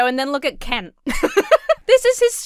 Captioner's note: laughs